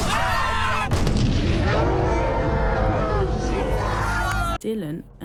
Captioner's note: explosion